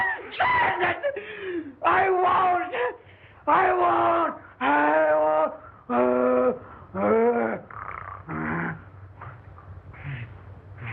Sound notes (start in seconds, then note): 4.0 groaning, snarling